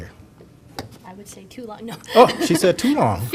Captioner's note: laughter